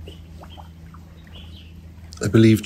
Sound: birds singing

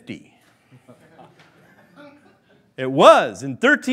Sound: laughing

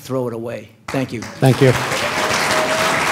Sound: applause

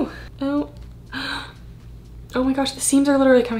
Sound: gasps

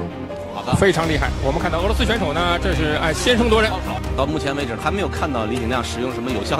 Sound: commentators speaking foreign language

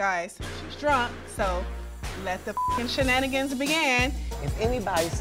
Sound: beep

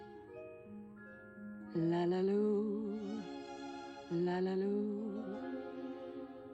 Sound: humming

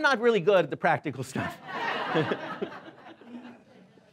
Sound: laughing

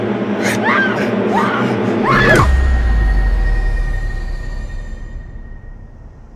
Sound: Heather screaming; blow thuds

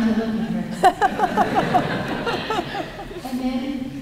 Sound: laughter

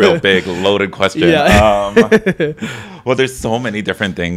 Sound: chuckles

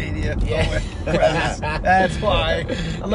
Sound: laughing

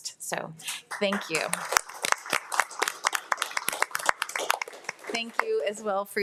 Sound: audience applauding

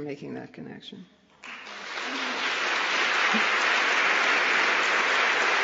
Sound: applause

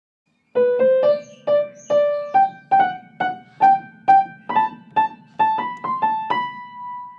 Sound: bird singing; soft piano music

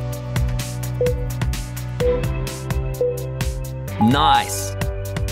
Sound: timer beeping

